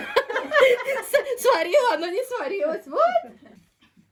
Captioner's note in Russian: смех